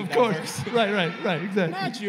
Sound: laughter

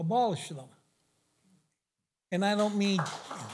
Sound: applause

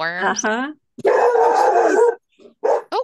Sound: dog barking

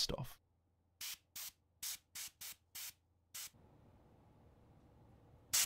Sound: compressed air nozzle puffing

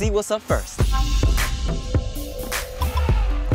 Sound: upbeat music; elephant trumpets; upbeat music

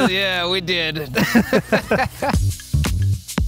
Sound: both laughing; cool music begins

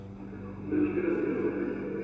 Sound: muffled voice

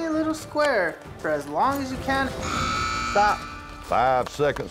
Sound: buzzer sound

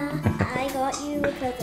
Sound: dad chuckles

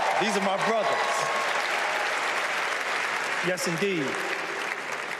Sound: cheers and applause

